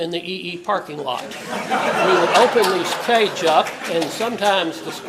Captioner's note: laugh